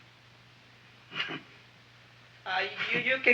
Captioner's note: Wilbur chuckles